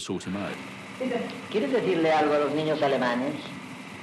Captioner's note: speaking Spanish